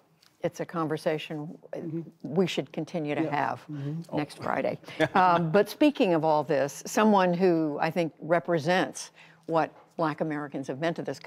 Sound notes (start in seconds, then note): 5.0 laughter